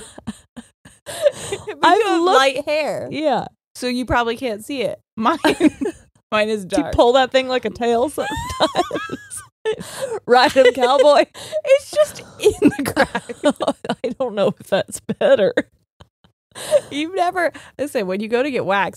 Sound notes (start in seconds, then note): 0.0 both laughing; 5.4 both laughing; 8.2 both laughing; 9.6 laughing; 13.3 both laughing; 15.6 laughs